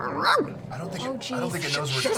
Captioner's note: barks